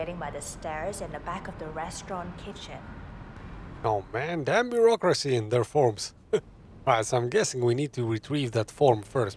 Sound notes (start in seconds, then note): 5.7 laughs